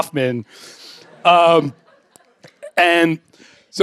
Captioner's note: laughter